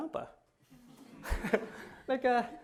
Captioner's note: laughter